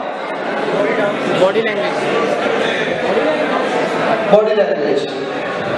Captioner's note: crowd shouts